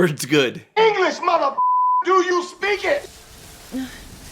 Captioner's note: beeper